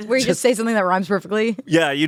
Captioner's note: laughs